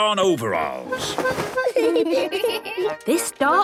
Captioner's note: giggling